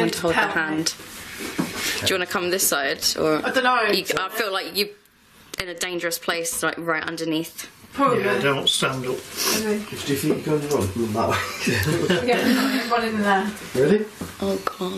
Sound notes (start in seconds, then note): 11.3 laughing